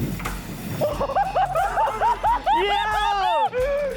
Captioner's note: both laughing